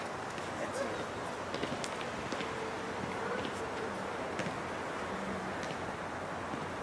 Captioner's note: basket ball tapping